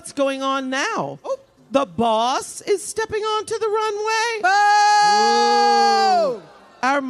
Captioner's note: applause